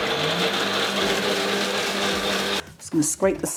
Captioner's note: blender roaring